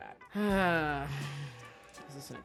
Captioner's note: sighs